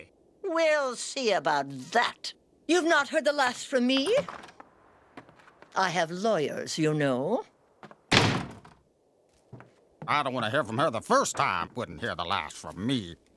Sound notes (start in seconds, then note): 7.9 slams door